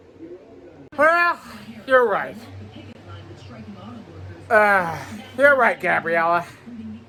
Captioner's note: slurred